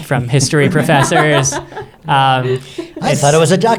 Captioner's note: laughing